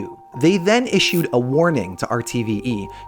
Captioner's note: none